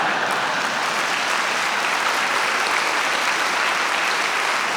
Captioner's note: audience applauding